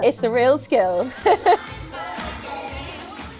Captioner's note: laughs